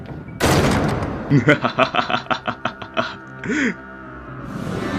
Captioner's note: Zazel laughs